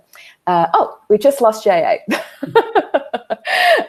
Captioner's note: laughs